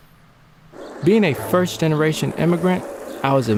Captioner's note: male Voice